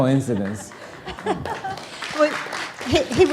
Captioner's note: audience applauding